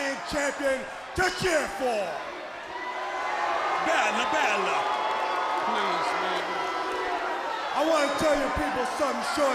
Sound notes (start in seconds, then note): 1.8 crowd chatter